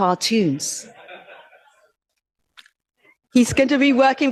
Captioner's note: audience laughs